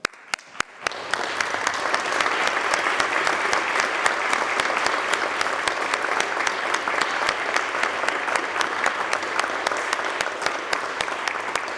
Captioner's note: applause